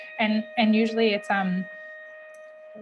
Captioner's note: ringing